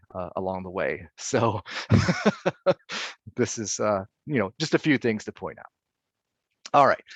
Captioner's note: laughing